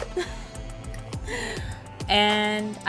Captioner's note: laughs